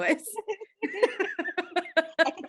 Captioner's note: laughing